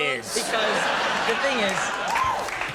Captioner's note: audience laughing